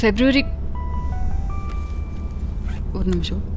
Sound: mobile ringing

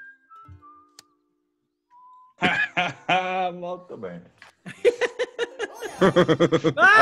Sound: laugh

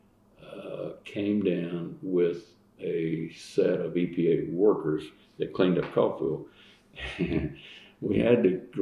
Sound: laughs

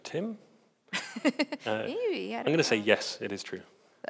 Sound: laughs

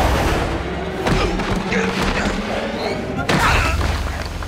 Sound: groaning

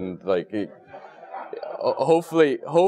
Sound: laugh

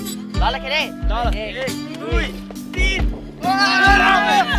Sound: counting in Nepali

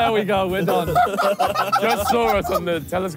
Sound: laughing

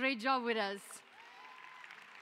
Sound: applause

